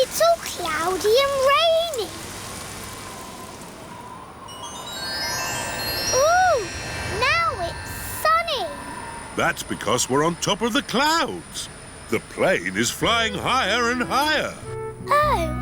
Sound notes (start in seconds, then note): none